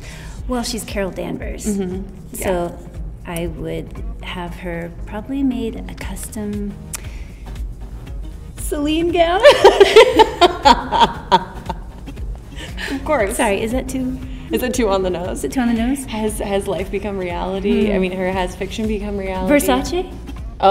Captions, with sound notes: Well, she's Carol Danvers, so I would have her probably made a custom Celine gown. (Brie laughs) - Of course. - Sorry, is that too-- - Is that too on the nose? - Is that too on the nose? - Has life become reality, I mean, has fiction become reality? - Versace?